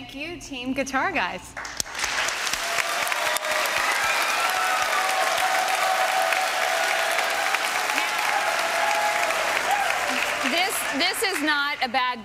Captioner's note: applause